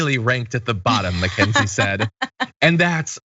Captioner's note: laugh